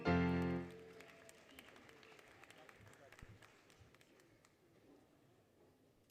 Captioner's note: applause, Cheering, Music; applause, Cheering